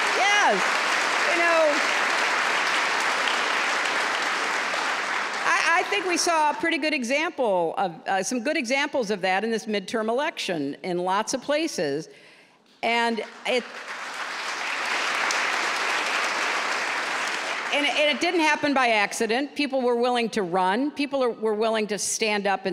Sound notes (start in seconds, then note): 13.1 applause